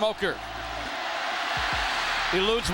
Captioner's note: crowed cheering